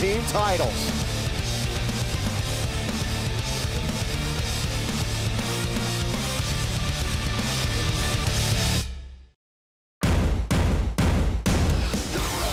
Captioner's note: crowd cheering